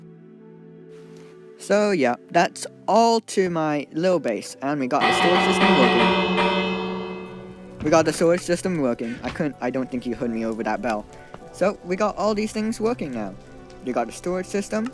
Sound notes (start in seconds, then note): 5.0 bell noise